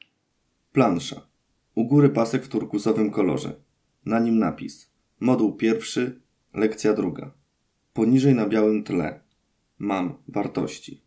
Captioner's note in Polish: Głos męski z offu, audiodeskrypcja planszy